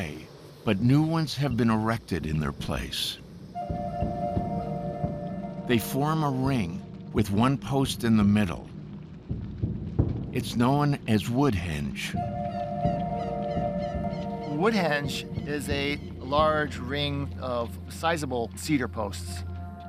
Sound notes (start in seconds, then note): 12.3 birds squawking